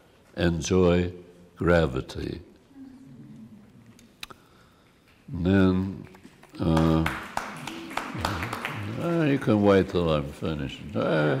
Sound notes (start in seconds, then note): 6.0 applause